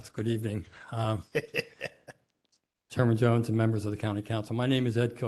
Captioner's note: laughter